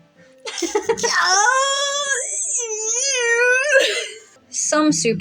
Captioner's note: laugh